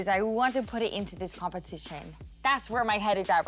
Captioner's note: none